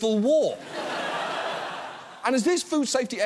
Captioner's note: audience laughs